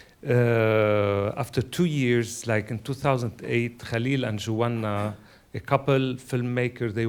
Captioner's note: speaking a foreign language